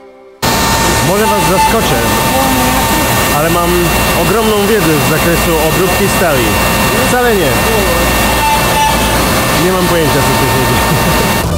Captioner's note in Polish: śmieje się